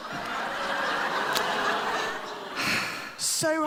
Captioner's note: laughter